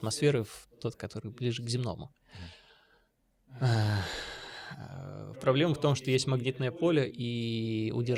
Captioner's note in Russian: вздыхает